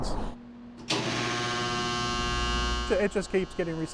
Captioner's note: machinery buzzing